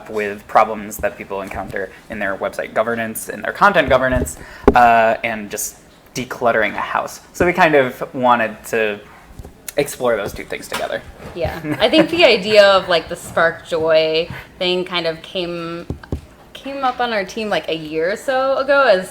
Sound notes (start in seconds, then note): 11.5 laughing